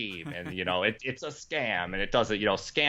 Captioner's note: laughing